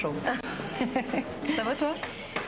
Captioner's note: Rire